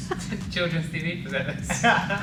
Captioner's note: laughter